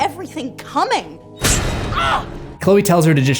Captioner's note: scream